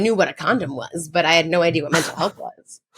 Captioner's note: chuckles